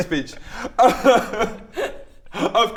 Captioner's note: inspirational cry